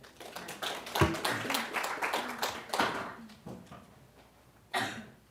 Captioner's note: applause